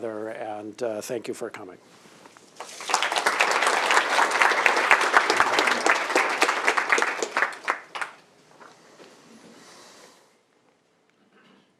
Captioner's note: applause